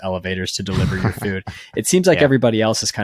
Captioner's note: laughing